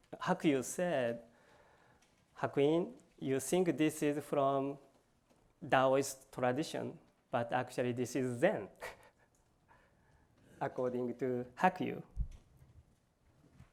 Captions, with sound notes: Hakuyu said, Hakuin, you think this is from Taoist tradition, but actually this is Zen-- [LAUGHS]-- according to Hakuyu.